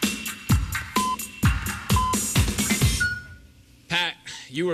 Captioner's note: electronic beeping